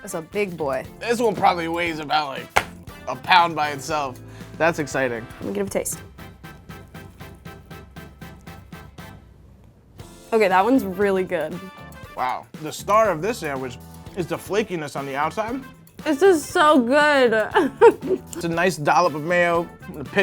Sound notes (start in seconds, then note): 2.5 slap; 5.4 upbeat music; 17.5 laughs